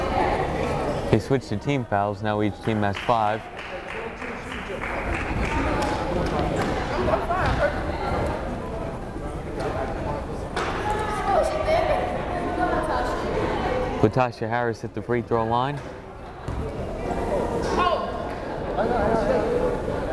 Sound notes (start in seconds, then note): 6.3 crowd chattering; 17.0 crowd chattering